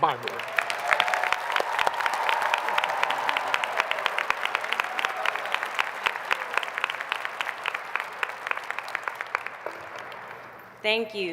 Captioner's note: applause